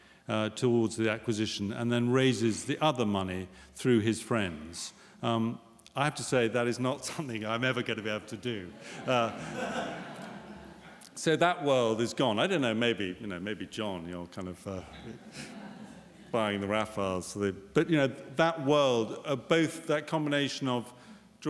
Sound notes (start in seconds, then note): 8.7 laughter